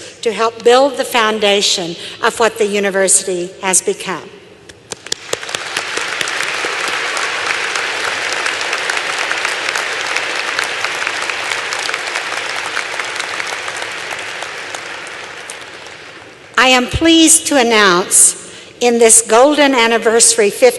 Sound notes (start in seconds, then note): 4.9 applause